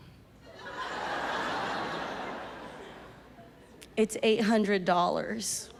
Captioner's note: audience laughs